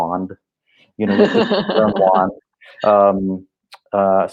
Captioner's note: laughing